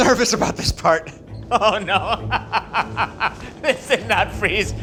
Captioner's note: laughs